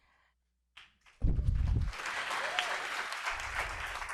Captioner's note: applause